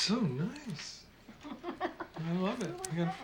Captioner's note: claire laughing